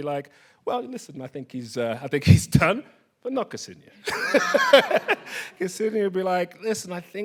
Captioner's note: laughs